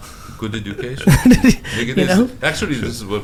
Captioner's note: Gary laughs